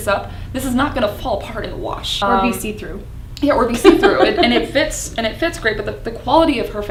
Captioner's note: laughs